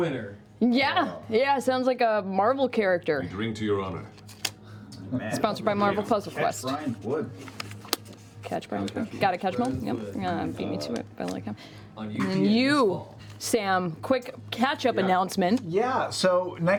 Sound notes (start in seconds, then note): none